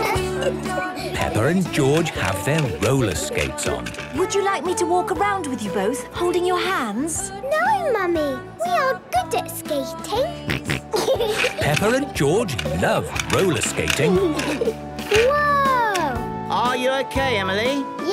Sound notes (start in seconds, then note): 0.0 giggling; 10.4 snorting and giggling; 14.1 laughter